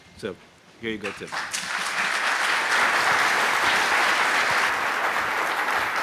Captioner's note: applause